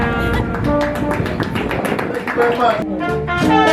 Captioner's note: applause